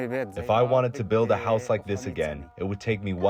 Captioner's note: through translator